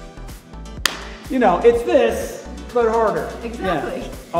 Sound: claps hands

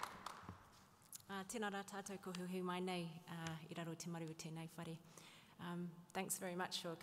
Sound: speaking native Maori

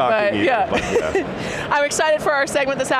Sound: laughing

